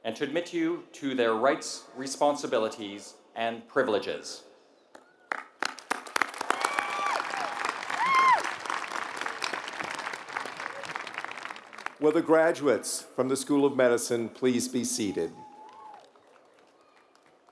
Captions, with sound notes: and to admit you to their rights, responsibilities, and privileges. [APPLAUSE] Will the graduates from the School of Medicine please be seated.